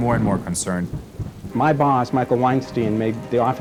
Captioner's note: rain sound